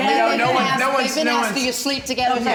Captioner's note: general conversation